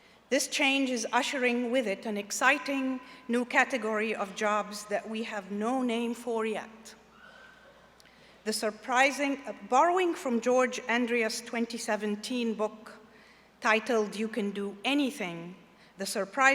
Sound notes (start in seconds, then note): none